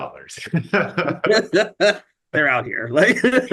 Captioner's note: chuckling